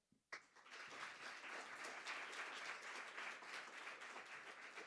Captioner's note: audience applauding